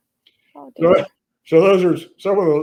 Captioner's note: laughs